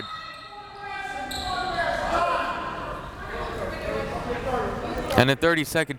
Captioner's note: crowd members shouting